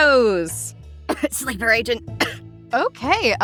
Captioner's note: coughs